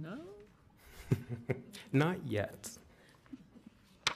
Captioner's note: laughing